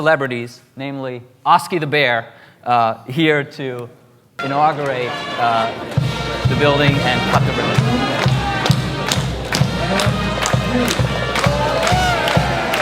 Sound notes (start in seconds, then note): 7.1 pep band plays; 8.8 audience applause